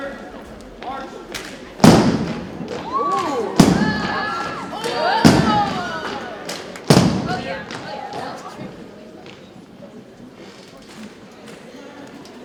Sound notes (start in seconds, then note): 1.8 rhythmic thumping continues